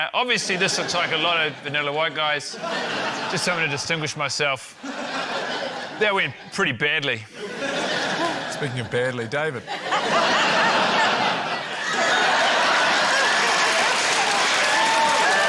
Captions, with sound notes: Obviously this looks like a lot of vanilla white guys. Just something to distinguish myself. That went pretty badly. (LAUGHTER) - Speaking of badly, David. (LAUGHTER) (CHEERING, APPLAUSE)